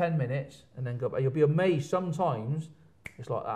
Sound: snaps fingers

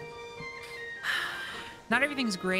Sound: sigh

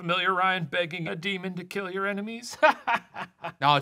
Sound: laughs

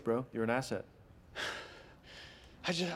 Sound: sighs

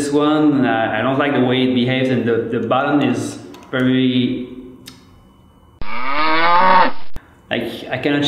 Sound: mooooo

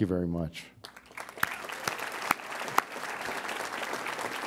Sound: audience applauds

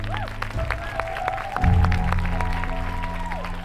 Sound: cheers and applause

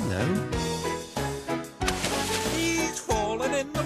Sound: splashing sound

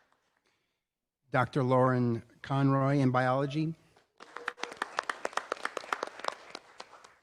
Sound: applause

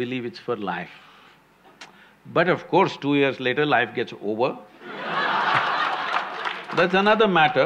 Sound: laughter/Applause

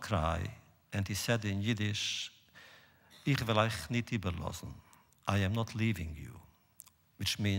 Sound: Yiddish

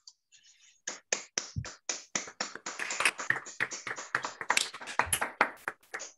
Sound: applause

